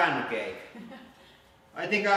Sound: giggle

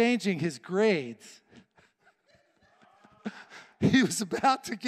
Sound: chuckling

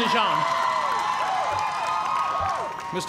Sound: cheers and applause

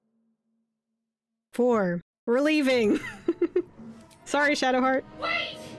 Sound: laughs

